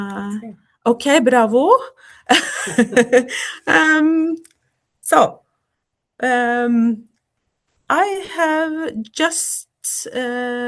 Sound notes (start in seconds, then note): 2.3 laughter